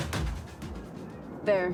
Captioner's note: music fades; wind blows